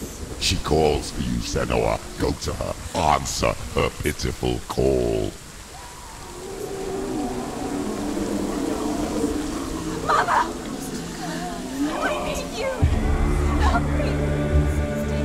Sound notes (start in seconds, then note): 8.6 scream